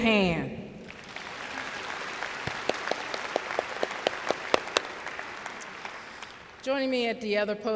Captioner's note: applause